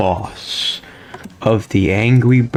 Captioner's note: inhales Oxygen